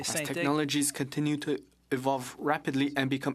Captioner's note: speaking French